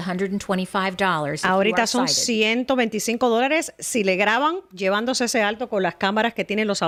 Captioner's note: Hablando ingl\s